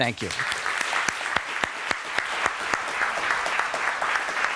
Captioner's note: clapping